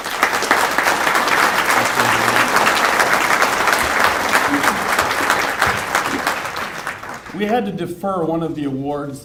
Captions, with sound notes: (applause) We had to defer one of the awards